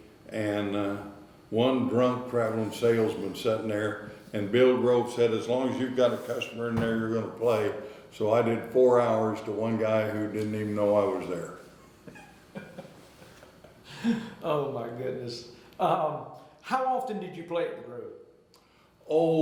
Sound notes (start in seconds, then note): 12.0 interviewer laughing